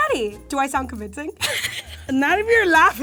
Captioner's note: laughs